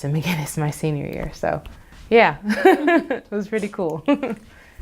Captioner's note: laughs